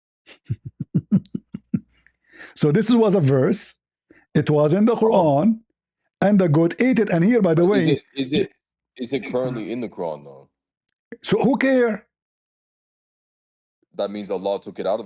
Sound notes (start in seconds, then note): 0.3 ketawa